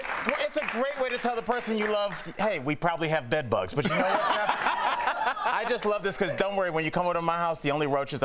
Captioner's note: laughter